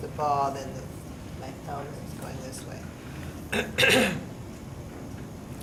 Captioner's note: coughs